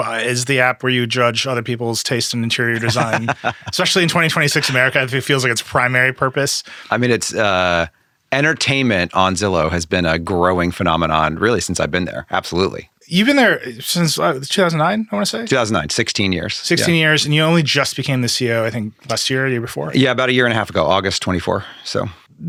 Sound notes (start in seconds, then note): 2.6 laughing